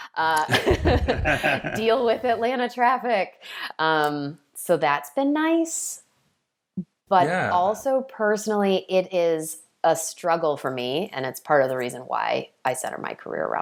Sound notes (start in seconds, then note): 0.4 laughing